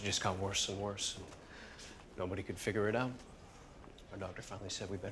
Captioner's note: none